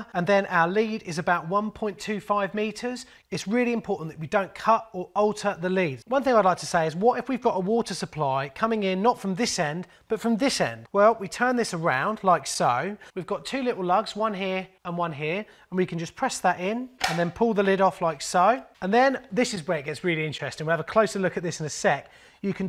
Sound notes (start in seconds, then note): 17.0 loud click